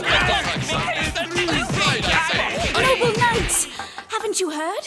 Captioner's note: squabbling